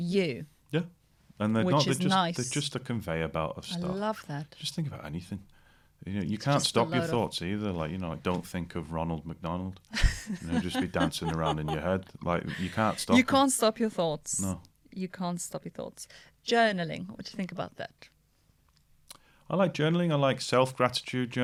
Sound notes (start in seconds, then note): 9.9 laughter